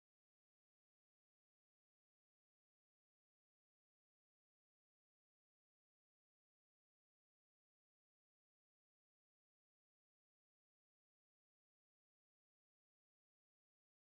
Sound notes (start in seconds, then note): none